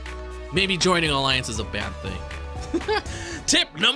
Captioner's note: chuckle